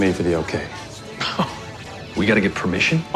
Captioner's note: laughs